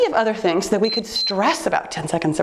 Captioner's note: timer beeps